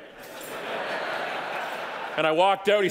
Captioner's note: audience laughing